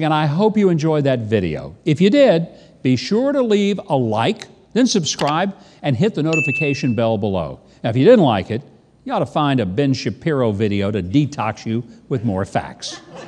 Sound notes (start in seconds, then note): 5.5 keyboard clicking; 6.3 bell dinging; 12.8 audience laughing